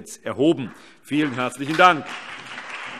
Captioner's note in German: Allgemeiner Beifall